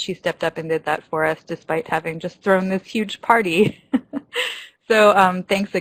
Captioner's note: laughs